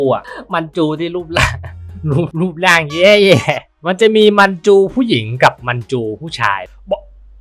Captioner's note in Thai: เสียงหัวเราะ